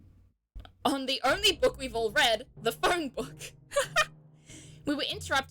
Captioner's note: laughs